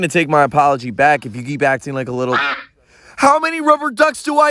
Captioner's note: quack